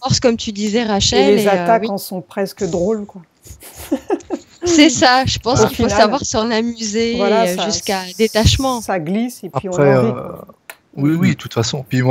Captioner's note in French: rires